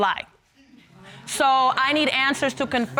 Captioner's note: audience laughs